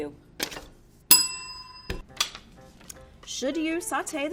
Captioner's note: bell rings